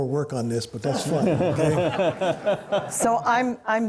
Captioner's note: laughter